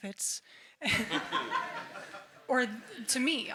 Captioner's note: everyone laughs